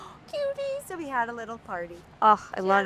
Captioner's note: gasps